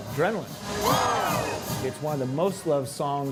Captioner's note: crowd